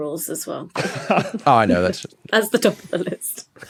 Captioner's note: laughs